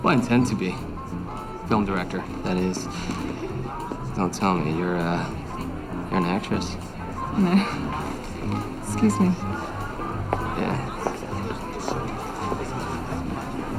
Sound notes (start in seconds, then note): 7.9 laughs